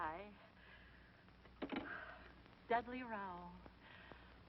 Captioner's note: sighs